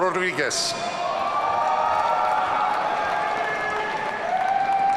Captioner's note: audience cheering